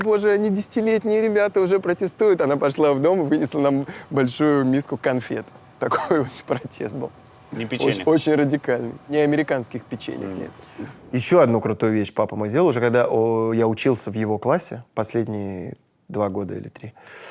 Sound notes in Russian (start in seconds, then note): 5.8 смеясь